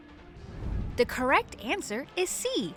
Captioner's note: transition whooshes